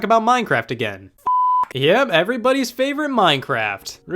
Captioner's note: beep